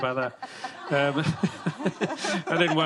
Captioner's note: laughter